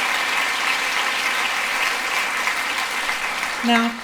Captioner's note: applause